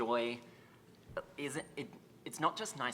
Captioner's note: stutters